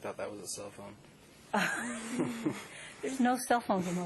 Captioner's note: laughter